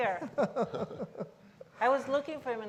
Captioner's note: laughing